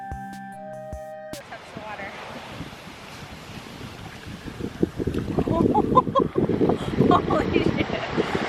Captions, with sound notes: Here comes the water. (light music) (laughs)